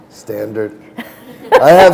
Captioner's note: chuckle